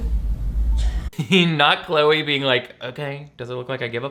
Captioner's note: laughs